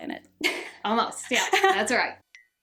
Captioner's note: laughing